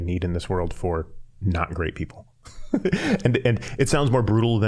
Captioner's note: laughing